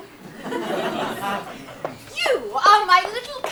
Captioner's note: audience laughs